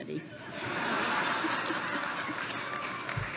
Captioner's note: laughter; applause